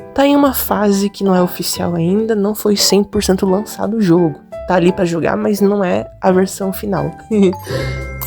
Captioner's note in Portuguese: risos